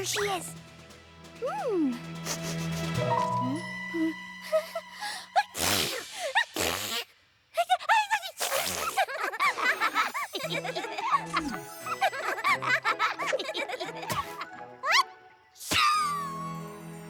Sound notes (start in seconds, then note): 2.2 sniffs; 8.9 both laughing